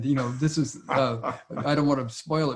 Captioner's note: laughs